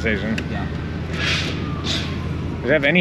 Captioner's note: sirens blare